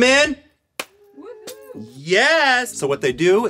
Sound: cheering in background

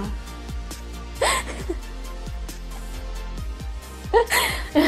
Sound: laughs

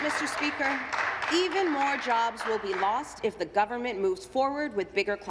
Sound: applause

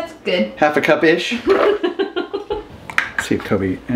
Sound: laughing

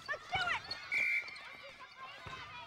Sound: all yelling

